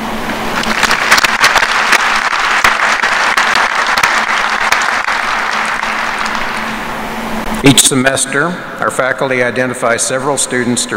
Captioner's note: applause